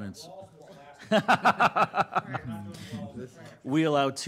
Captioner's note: faint talking from men; man laughing